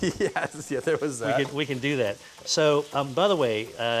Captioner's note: laughing